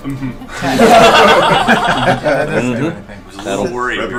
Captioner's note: all laugh